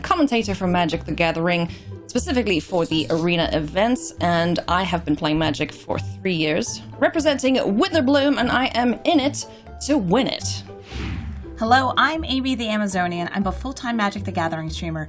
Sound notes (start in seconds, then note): 10.8 air whooshing